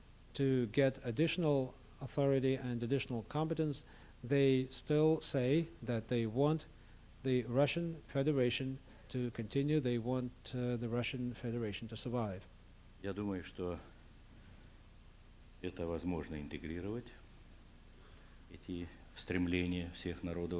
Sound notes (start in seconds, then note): 14.4 non-english speech